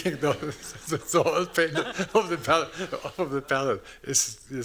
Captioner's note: laughing